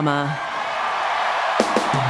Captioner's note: cheers and Applause